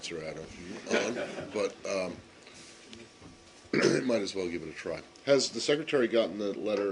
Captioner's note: laughter